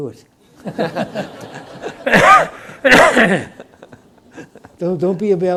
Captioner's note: audience laughs; coughs